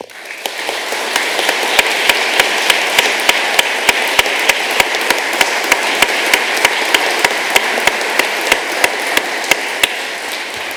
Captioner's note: applause